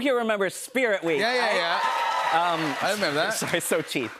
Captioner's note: cheers and applause